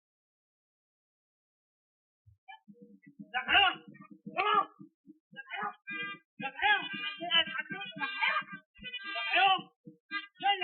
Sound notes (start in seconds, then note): 2.4 shouting in Arabic